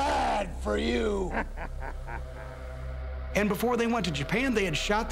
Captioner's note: laugh